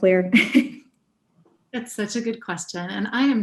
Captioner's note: laugh